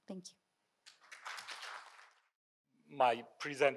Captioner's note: audience applauding